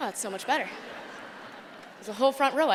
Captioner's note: laughter